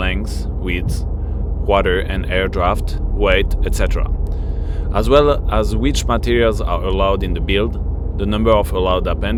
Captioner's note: water and air